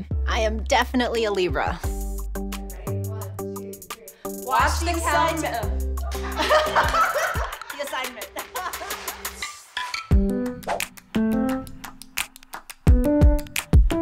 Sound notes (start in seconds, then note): 6.0 Melissa laughs; 8.8 laughs; 9.2 upbeat pop music